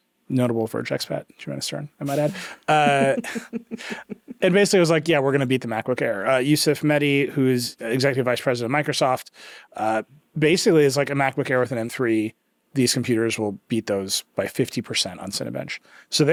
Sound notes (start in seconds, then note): 2.0 chuckling